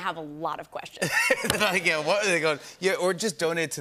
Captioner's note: laughter